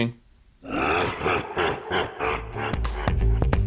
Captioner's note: evil Laughter